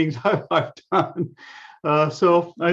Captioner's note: laughs